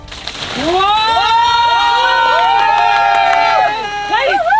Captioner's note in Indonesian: Teriakan